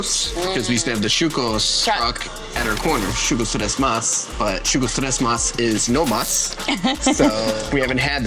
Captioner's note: laughs